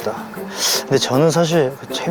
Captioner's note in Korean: 쓰읍